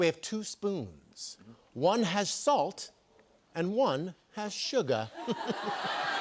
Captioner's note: laughter; chuckles